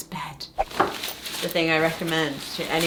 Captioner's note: screen whooshing